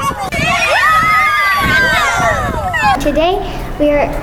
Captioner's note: screams